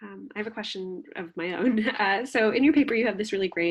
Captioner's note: laughs